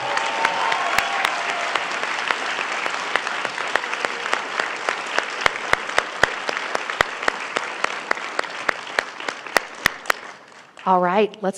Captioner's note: applause